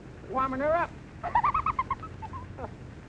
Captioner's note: laughs